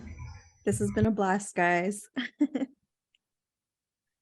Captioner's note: laugh